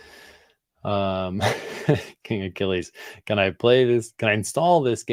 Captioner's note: chuckles